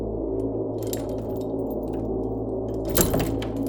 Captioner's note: chains jangling